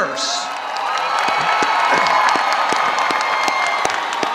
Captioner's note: audience applauding